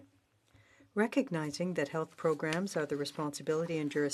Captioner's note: speaking in French